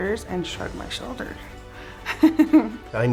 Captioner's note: laugh